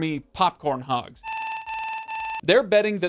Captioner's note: alert noises